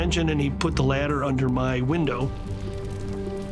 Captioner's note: fire crackling